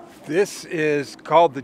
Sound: winch motor running

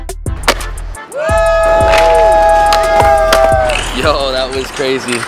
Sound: wooing

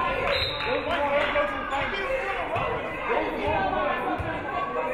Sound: referee whistles

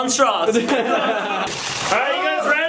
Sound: laughing

